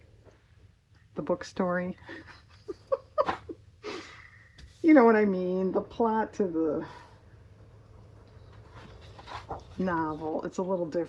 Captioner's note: laughs